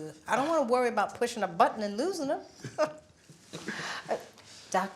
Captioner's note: laughs